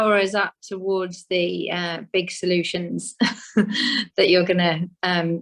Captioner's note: chuckles